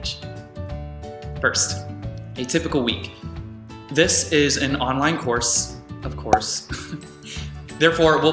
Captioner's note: chuckle